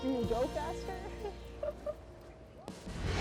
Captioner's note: laughter